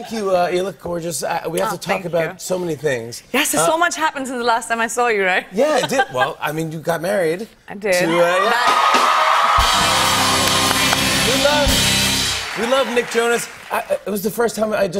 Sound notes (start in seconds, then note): 8.0 cheers and applause